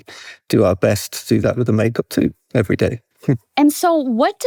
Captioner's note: chuckles